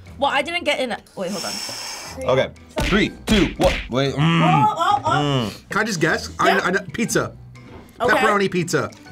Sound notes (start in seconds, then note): 1.3 exhaling loudly; 4.3 door slamming